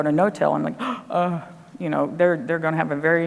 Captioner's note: gasping